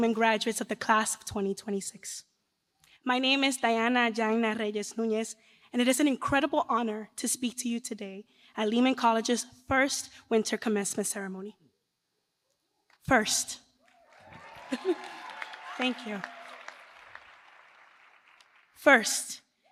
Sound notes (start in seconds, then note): 13.9 cheers